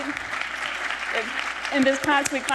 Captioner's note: applause